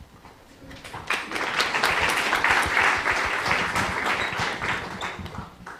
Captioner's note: applause